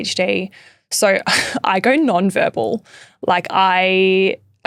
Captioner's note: laughing